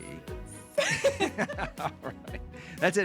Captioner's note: laughing